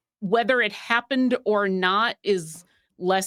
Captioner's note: none